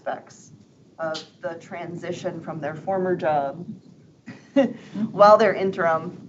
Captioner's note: chuckles